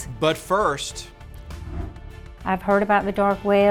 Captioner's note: transition whooshes